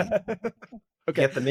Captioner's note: laughing